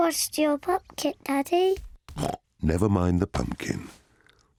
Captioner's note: snorts